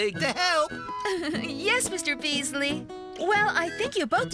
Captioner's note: giggling